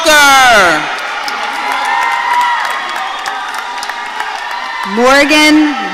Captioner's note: audience cheering